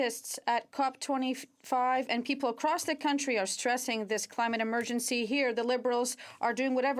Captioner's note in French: voix de l'interprète